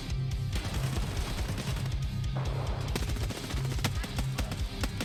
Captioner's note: machine gun firing